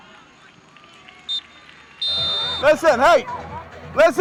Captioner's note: whistle blows